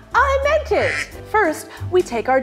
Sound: duck quacking

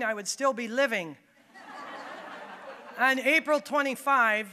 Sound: audience laughing

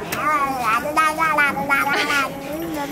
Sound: babbling; laughing

